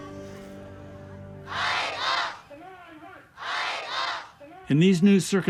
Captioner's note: crowd chanting